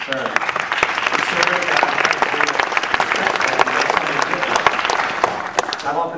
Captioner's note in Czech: Potlesk